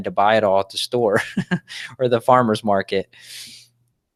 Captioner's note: chuckles